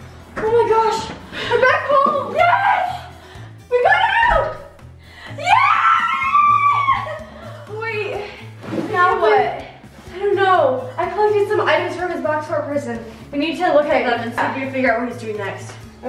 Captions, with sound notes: - Oh my gosh, we're back home. - Yes! - We got out! (screaming) - Wait, now what? - I don't know. I collected some items from his box fort prison, we need to look at them and see if we can figure out what he's doing next.